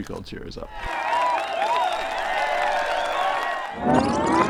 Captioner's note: crowd cheering